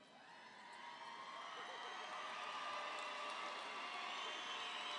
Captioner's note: audience applauding